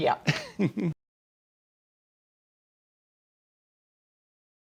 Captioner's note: chuckling